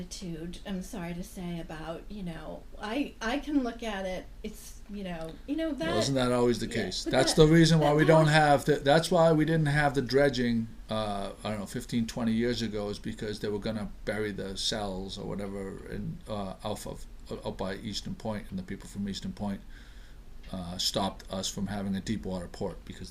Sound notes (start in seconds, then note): 5.3 voiceover